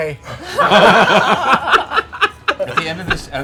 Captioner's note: laughter